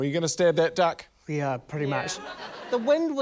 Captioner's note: laughter